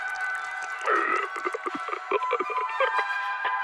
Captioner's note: soldier 2 gasping